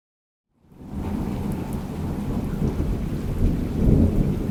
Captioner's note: thunder rumbling